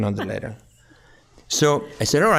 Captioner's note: chuckling